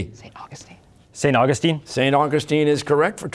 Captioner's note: whispering